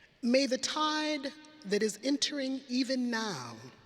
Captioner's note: none